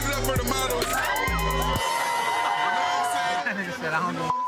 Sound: attendees cheering; beep

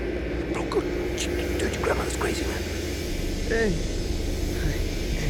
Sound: whispering

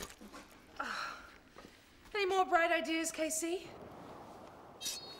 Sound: vomit splattering; groans

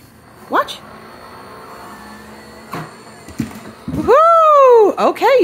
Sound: machines whirs

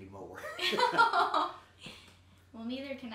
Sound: laughing

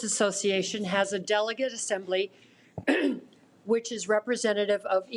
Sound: clears throat

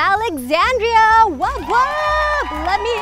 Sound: crowd applausing

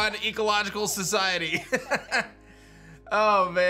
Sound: laughs

